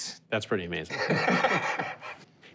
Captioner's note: laughs